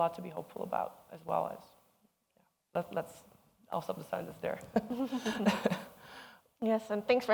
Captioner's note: chuckles